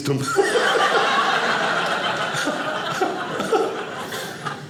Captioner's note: audience laughing